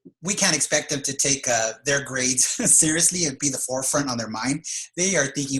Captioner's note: laugh